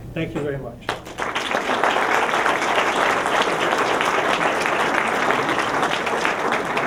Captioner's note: applause